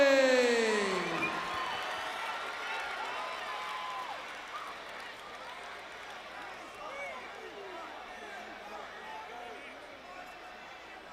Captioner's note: crowd cheering